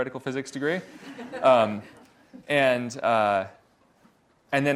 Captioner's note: audience laughs